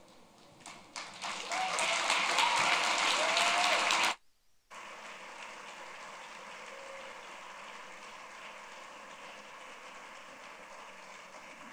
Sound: applause

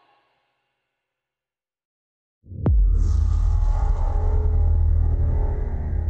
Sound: transition sound

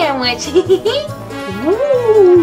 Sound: giggles

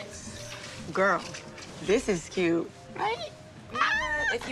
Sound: exclaims

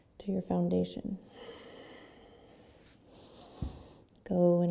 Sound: breathing

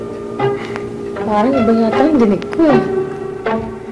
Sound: exhales

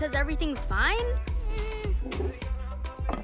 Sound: nervous whimper

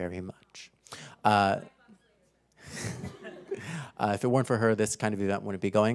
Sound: laugh

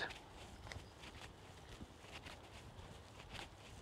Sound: footsteps

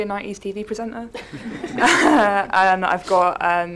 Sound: audience chuckles

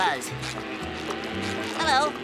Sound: buzzing

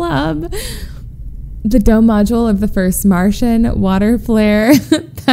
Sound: laughs

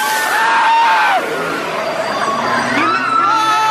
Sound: screaming

